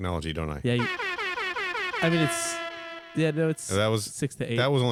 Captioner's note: airhorns sfx